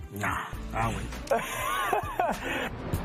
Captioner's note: laughs